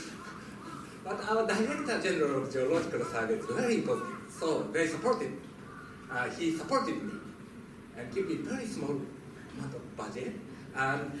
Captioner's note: laughter